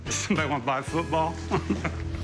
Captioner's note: chuckling